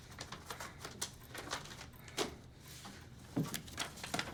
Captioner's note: envelope crinkling